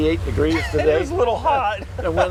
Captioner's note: laughs